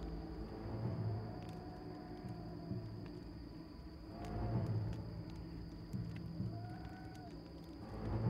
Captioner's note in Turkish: Ateş çıtırtısı sesleri; Rüzgâr sesi